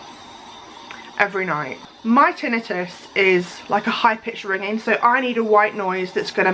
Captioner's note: high pitch white noise